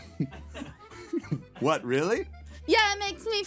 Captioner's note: laughing